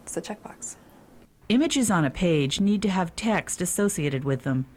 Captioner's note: voiceover